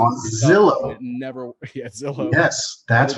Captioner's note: laughs